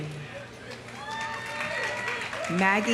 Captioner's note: audience applauding; audience cheering